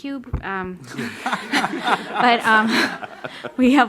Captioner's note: audience laughs